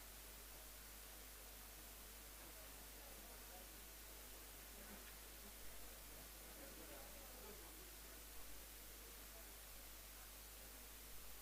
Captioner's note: background chatter